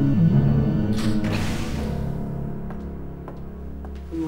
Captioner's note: door opens